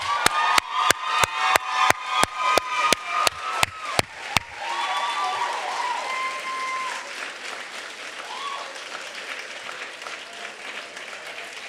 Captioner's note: applause